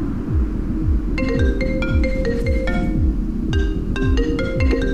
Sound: phone ringing

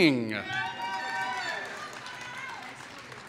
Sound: applause

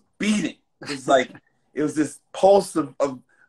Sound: laughs

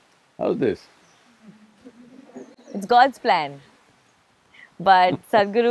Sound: Sadhguru laughs

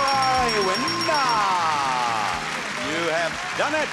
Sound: audience clapping; upbeat music

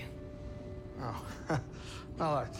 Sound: laugh

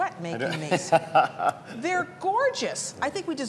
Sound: laughter

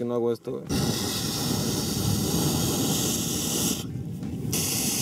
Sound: blowing

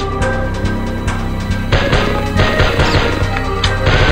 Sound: M16 gun sync with music

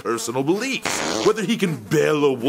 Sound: more farting

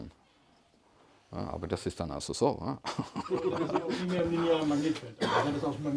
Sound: laughs

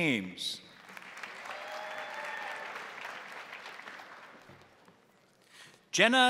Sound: crowd applauding; crowd cheering

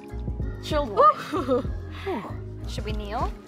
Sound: gasps

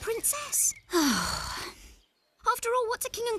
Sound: sigh!

